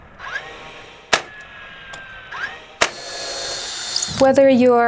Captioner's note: drilling sound